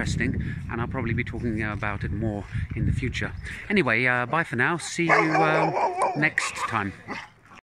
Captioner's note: dogs barking loudly